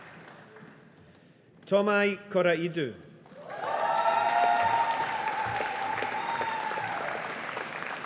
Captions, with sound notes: Thomai Koraidou. (AUDIENCE APPLAUDING)